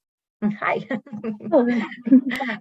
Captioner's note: laughs